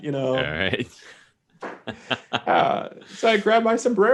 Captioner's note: chuckling